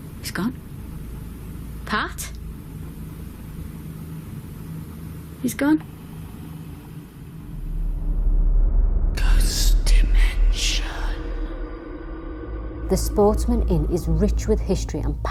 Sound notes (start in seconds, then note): 8.7 whispering Voice